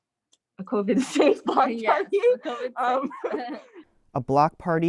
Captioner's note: chuckles